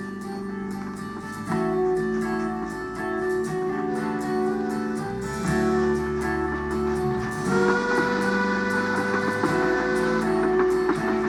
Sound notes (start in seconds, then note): 3.1 train whistle blows